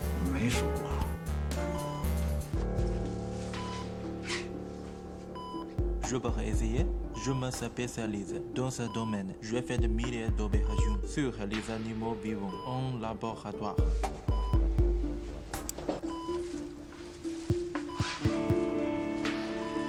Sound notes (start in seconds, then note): 5.8 French